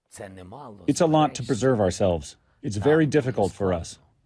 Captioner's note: through translator